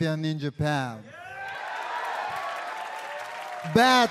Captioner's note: crowd cheering